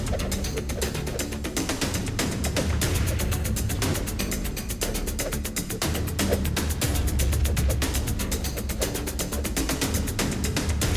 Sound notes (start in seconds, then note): 2.6 air whipping